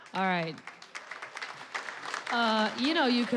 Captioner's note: applause